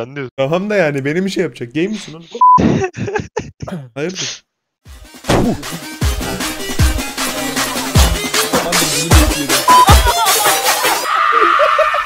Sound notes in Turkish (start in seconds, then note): 5.3 Fako tükürük ses efekti